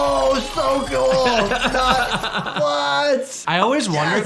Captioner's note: laughs